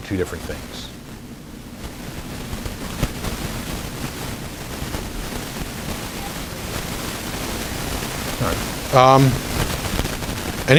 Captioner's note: recording crackling